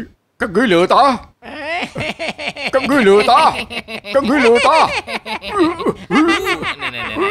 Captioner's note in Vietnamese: Tiếng cười